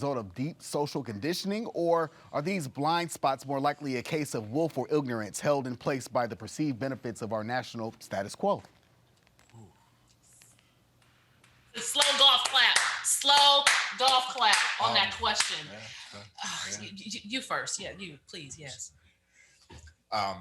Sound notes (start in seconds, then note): 10.8 exclaims; 16.1 mumbles; 16.1 sighs